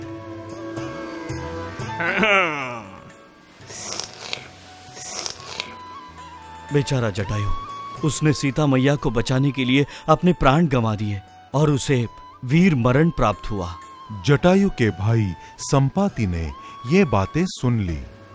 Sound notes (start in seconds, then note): 2.0 clears throat